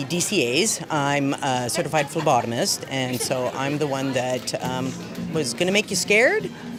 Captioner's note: laughter